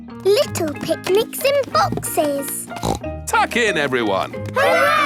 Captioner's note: snorts